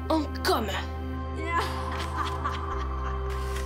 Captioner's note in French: rire maléfique